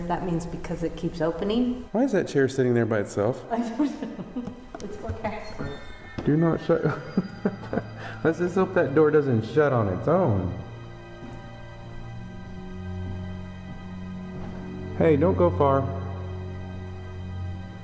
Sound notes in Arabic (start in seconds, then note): 6.7 ضحكة مزيفة